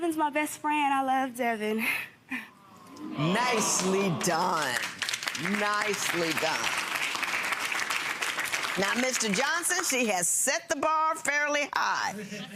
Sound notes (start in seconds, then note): 2.6 crowd awwing; 7.1 crowd clapping